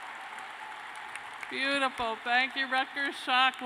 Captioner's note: cheers and applause